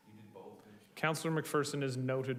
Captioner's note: person speaking off mic